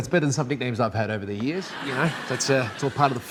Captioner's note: audience laughing